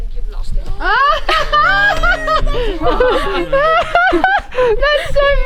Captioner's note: laughing